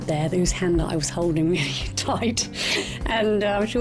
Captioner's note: chuckles